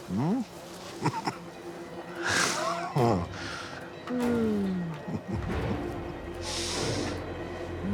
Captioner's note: chuckling